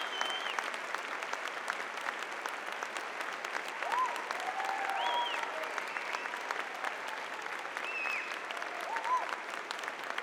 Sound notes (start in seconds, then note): 5.7 audience cheering